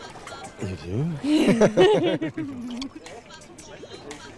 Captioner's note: Laughing